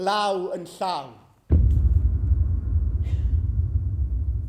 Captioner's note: loud ominous thud